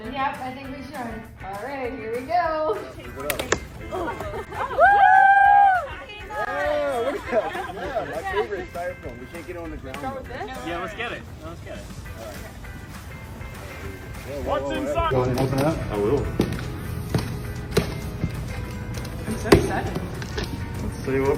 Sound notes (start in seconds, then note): 5.9 laughs